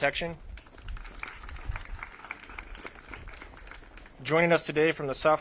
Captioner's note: audience claps